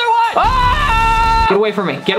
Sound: screaming

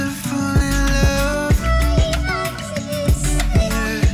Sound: sharp female voice

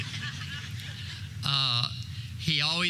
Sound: audience laughter

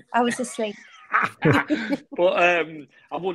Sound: group laughing

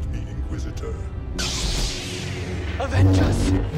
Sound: lightsaber activates

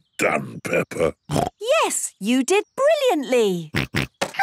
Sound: snorts

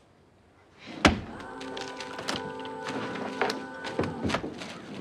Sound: ax thudding

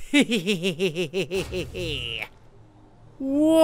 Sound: villainous laughing

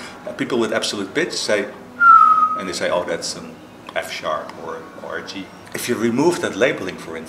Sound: whistles

